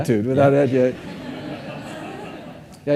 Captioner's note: audience laughing